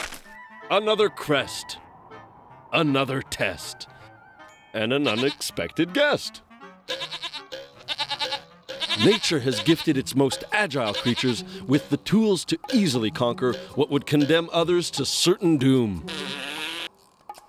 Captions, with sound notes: ANOTHER CREST... ANOTHER TEST... AND AN UNEXPECTED GUEST. (bleating) NATURE HAS GIFTED ITS MOST AGILE CREATURES WITH THE TOOLS TO EASILY CONQUER WHAT WOULD CONDEMN OTHERS TO CERTAIN DOOM. (blows raspberry)